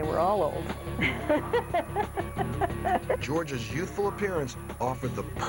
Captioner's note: laughs